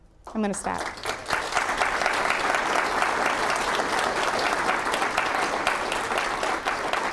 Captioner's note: applause